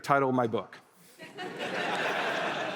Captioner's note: laughter